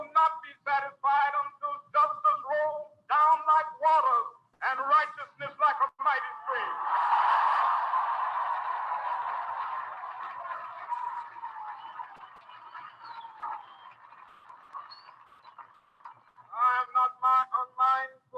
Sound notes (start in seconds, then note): 6.9 audience applauding